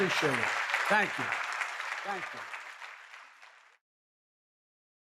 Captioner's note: applause